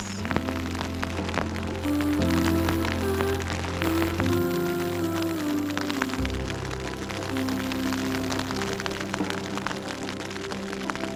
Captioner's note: rain; rain